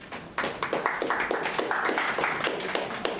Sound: clapping

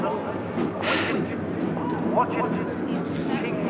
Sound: sighing

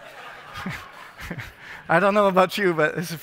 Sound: laughter

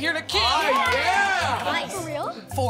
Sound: kids cheering

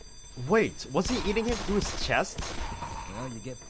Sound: gunfire

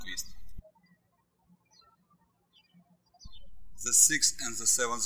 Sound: birds chirping

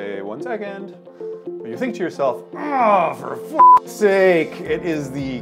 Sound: beep

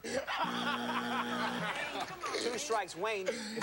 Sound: laughter

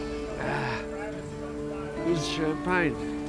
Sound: clears throat

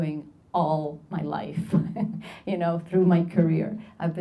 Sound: laughs

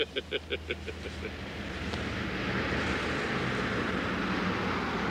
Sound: Jack laughing; car whooshing

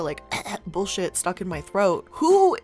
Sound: coughs

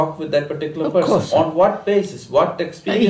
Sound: laughs

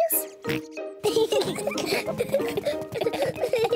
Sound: oinks; both laugh

